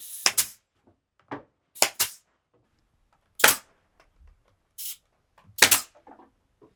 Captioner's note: nail gun hissing; nail gun clicking